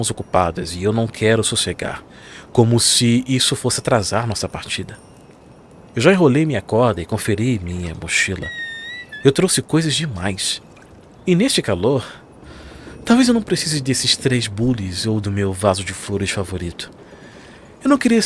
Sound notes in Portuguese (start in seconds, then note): 12.4 suspirando